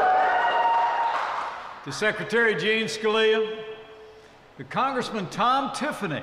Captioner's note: applause